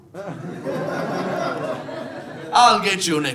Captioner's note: audience laughing